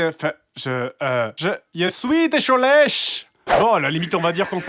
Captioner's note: Portuguese accent